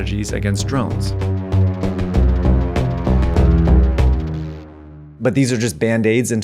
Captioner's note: planes whirring; suspenseful music